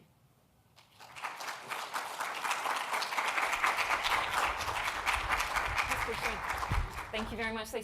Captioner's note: applause